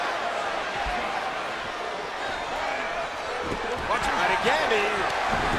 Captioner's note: crowd cheering